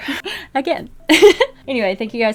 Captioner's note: laughs